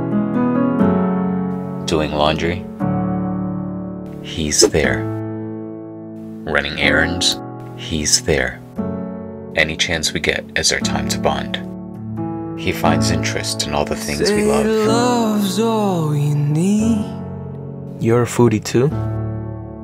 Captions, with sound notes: Doing laundry, he's there. [Whoosh Swoosh] Running errands, he's there. Any chance we get is our time to bond. He finds interest in all the things we love. “Say love is all you need” You’re a foodie too?